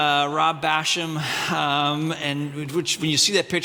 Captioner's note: audience laughing